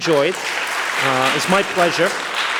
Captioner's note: audience applauds